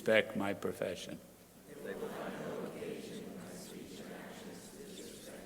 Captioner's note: crowd repeating